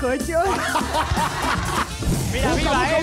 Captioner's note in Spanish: Ríe